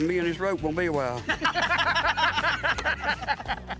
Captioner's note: all laughing